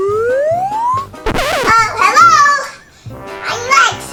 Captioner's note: cartoonish sound; scratch sound